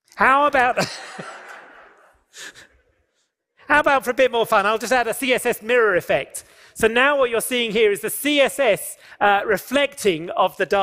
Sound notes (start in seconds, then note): 0.7 laughter